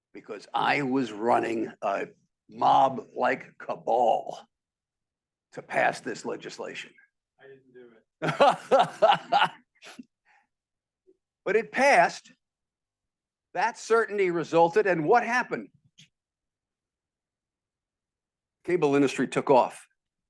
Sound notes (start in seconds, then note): 8.2 professor laughing